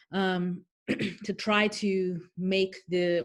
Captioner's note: clearing throat